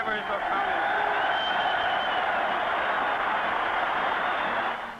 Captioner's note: audience cheering